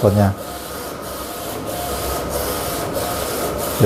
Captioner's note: printer machine noise